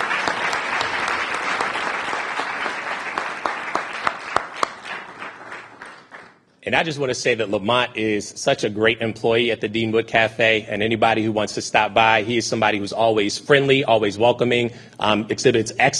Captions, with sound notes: PLEASE GIVE IT UP FOR OUR EXECUTIVE DIRECTOR OF H STREET MAIN STREET, ANWAR SALEEM. [ APPLAUSE ] >> THANK YOU, AND THANK YOU TO YOUR STAFF AND WHAT YOU GUYS HAVE DONE IN THE PAST AND THE DIRECTION YOU GUYS ARE GOING IN THE FUTURE.